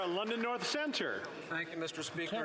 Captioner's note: some Applause